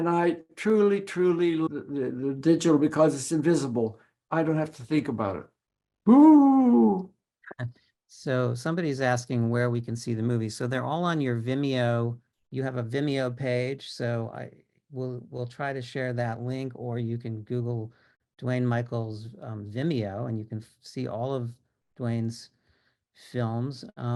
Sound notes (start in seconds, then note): 6.5 imitating ghost sounds